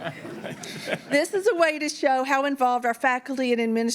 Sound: laughter

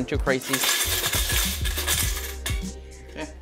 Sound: can shaking

